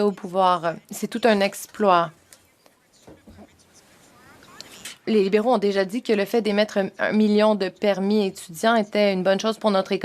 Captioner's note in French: voix de l'interprète